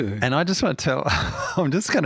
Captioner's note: chuckles